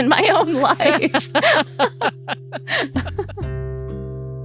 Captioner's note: laughing